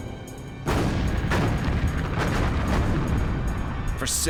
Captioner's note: gunfire